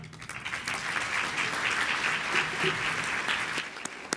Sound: audience applauding

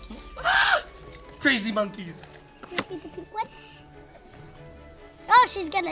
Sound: dad screeches

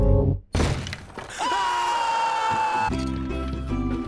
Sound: screaming; cheery music

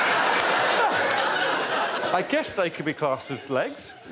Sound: laughter

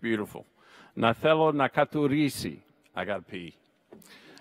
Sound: speaks in Greek

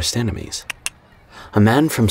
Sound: David clicks tongue

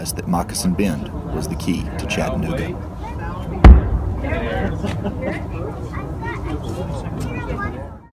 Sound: boom of cannon in the distance

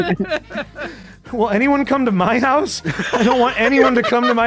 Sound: laughs; laughter

